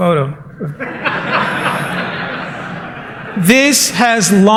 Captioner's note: laughter